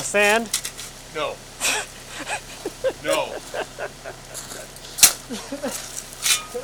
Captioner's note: laughing